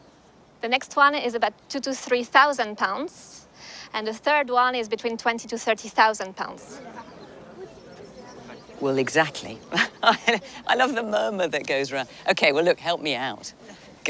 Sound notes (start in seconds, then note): 6.5 excited chatter in crowd